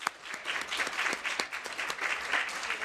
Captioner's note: applause